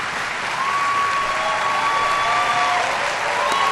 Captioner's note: applause